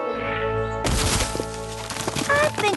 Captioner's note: crash